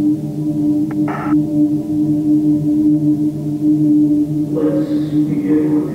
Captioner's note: static crackles